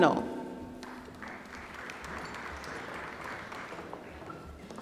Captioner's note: applause